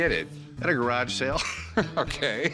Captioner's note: chuckles